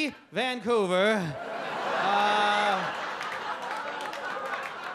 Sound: audience laugh

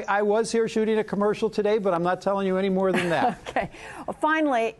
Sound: laughter

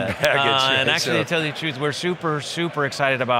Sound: background chatter

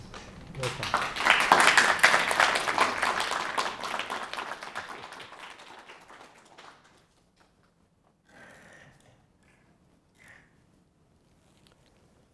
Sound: applause. walks to the podium and adjusts the microphone

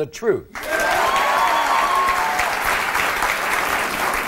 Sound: audience applauding

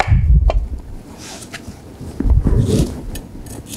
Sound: knife cutting

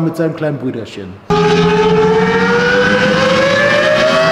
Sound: engine sounds

